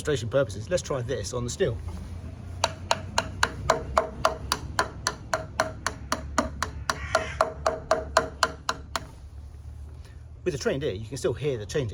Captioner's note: tapping sounds